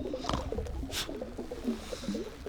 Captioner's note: scoffs